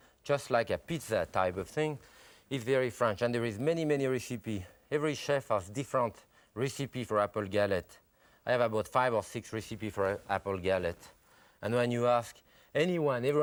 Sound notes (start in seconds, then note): none